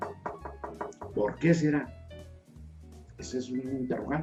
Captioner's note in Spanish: toc, toc, toc.GOLPES EN LA MESA